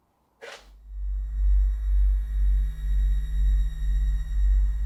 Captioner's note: magnet ringing